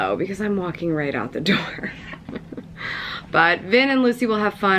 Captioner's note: chuckles